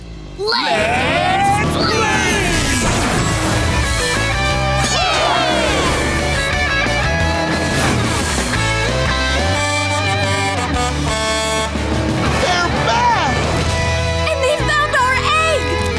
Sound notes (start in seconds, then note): 4.8 cheering; 9.3 truck horn honking